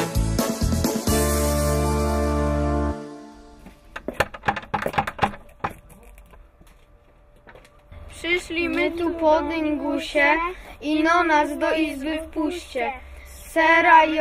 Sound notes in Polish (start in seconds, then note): 4.0 stukanie